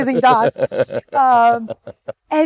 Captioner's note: laughing